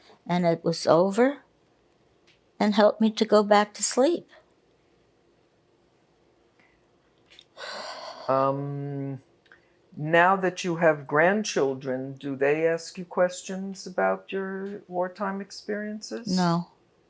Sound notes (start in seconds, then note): 7.6 sighing